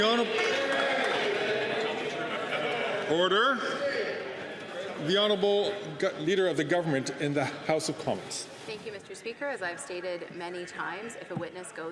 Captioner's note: some Applause